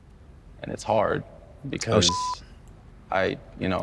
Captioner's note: beep